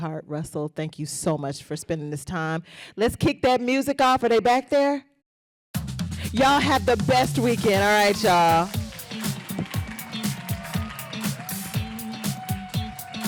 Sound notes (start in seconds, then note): 7.1 applause; 9.8 upbeat music